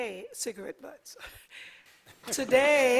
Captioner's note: laughter